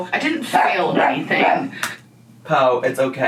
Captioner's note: Po barks